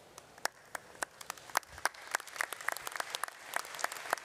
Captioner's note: audience applauds